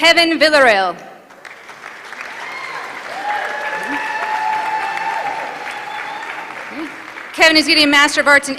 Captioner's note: applause